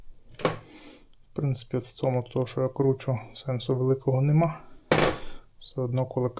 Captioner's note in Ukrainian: сопіння